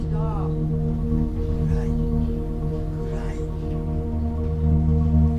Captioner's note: speaking German